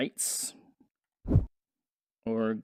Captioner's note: whoosh